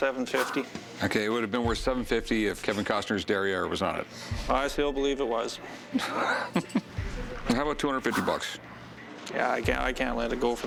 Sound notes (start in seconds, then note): 6.0 laughs